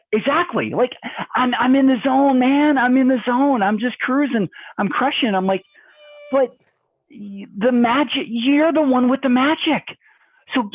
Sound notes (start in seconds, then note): 6.4 makes sound of plane crushing